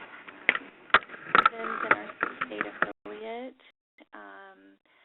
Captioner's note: static